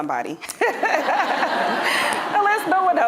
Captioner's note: audience laughing